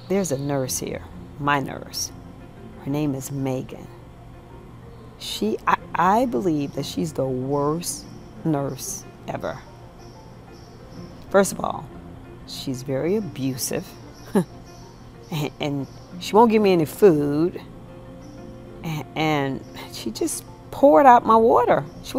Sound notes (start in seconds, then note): 14.3 chuckles